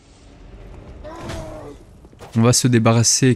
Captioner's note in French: Grognements de l'ennemi en frappant